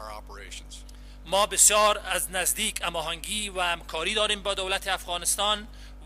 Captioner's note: translator speaking in foreign language